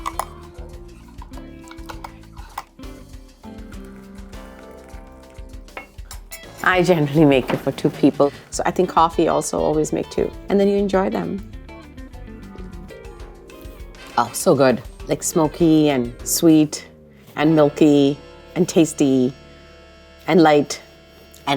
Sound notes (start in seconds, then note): 0.1 gentle bright music; 1.0 spoon clacking; 3.3 coffee trickling